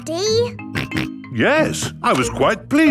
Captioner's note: snorts